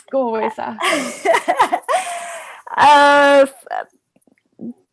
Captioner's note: laughs